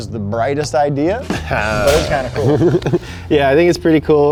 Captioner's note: laughing